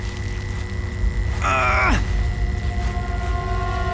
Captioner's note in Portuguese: Zumbido baixo; Grunhindo; Música de suspense